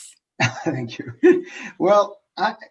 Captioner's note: laughs